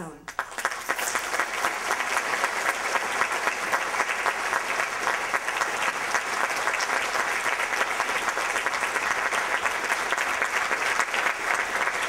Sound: applause

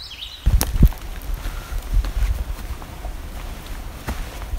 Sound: sounds of hiker walking on a trail

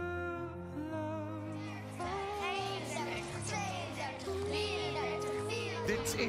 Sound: kids are counting

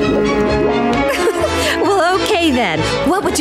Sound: laughing

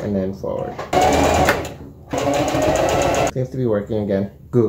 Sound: sound of sewing machine

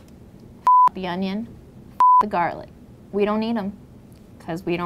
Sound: beep

